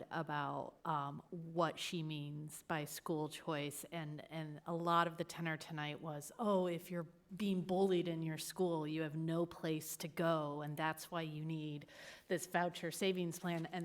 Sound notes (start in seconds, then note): none